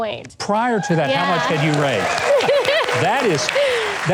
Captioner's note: applause